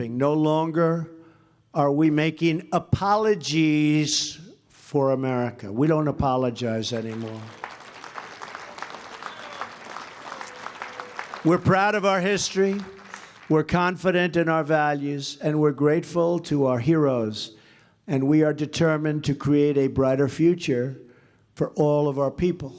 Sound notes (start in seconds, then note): 6.9 applause